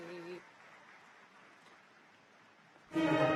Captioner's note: applause